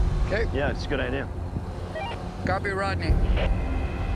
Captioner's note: walkie beeps